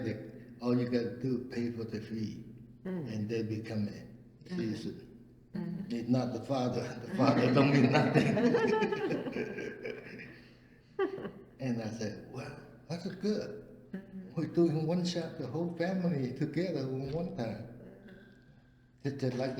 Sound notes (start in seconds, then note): 6.7 all laugh